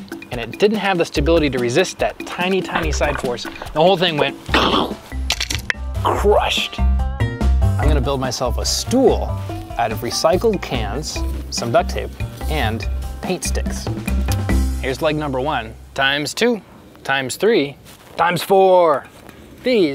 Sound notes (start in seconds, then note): 2.6 mimics crunching; 4.3 crunches